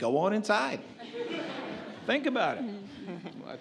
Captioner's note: audience laughs